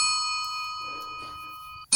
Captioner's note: phone ringing